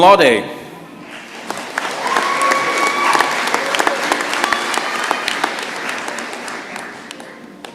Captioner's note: applause